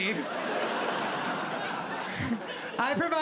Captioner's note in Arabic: ضحك